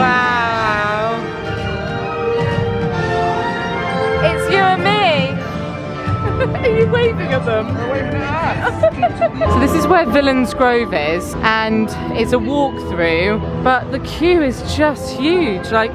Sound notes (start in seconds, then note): 1.3 upbeat soaring music; 8.5 giggling